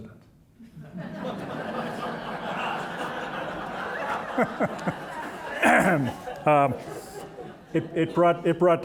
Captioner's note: audience laughing